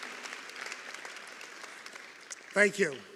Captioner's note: applause